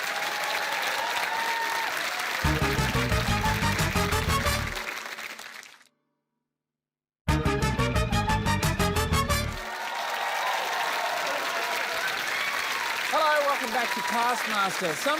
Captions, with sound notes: [CHEERING, APPLAUSE] [CHEERING, APPLAUSE] Hello! Welcome back to Taskmaster.